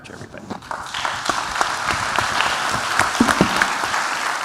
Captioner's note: applause